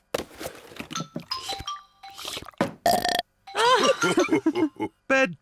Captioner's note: laughing; slurps and belches